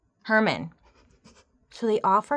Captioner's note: giggling